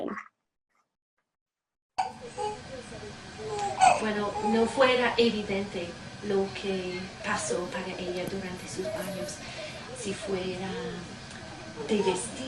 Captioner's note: speaking Spanish